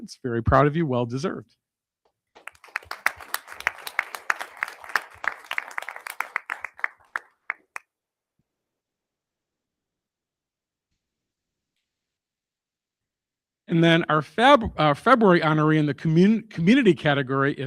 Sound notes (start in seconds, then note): 2.3 crowd applauding